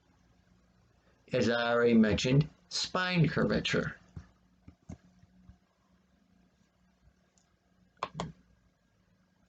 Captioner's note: click of trackpad